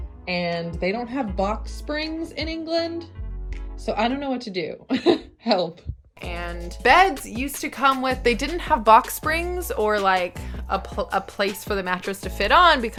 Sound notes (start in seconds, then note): 5.0 laughing